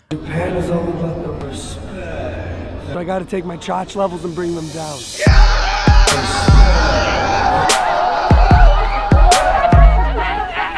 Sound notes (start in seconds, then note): 5.1 loud yelling & screaming; 7.5 continues yelling and being an obnoxious dumbass